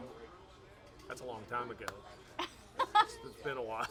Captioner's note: laughs